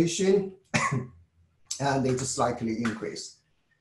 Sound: cough

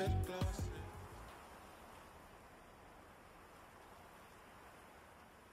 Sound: rustling leaves

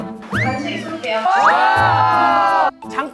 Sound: cheering, make some noise

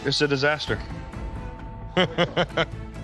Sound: chuckles

